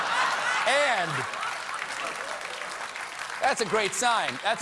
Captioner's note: laughter; applause